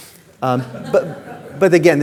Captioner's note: audience laughing